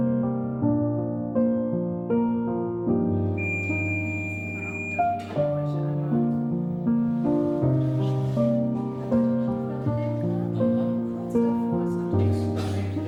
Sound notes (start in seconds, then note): 3.3 medical equipment bleeps